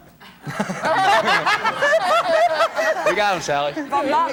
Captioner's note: laughing